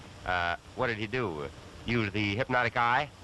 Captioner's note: none